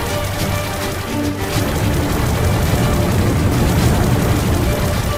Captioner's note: explosions